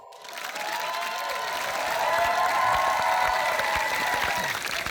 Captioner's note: cheering and applause